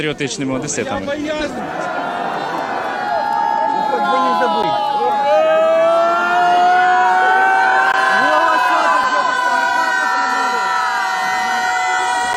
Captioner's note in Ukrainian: кричать